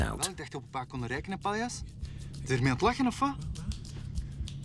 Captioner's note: Dutch spoken audio